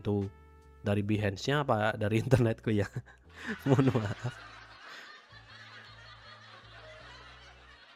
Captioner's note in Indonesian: tertawa